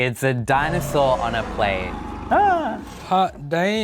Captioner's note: dinosaur roaring